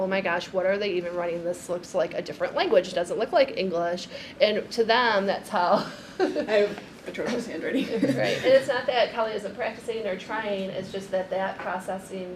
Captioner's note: laughs